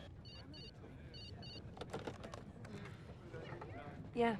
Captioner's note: telephone beeps